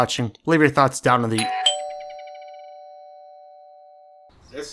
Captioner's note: doorbell.midi